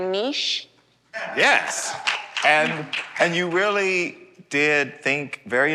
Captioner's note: applause